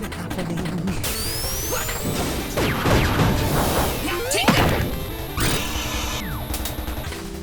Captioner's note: assorted sounds of robot on robot violence